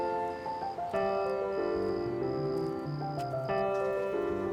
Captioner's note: footsteps crunch